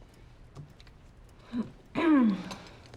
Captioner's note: clears throat